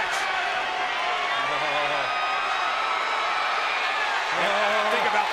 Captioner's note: audience cheering